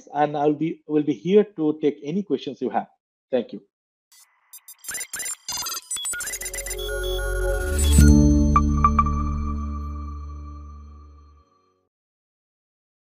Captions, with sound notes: and I will be here to take any questions you have. Thank you. (machine beeping) (bright music)